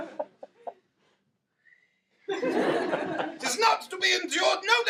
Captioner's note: whistling